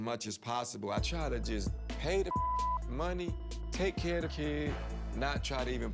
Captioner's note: beep